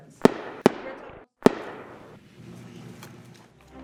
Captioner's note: gunshots